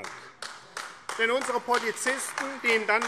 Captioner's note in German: Beifall AfD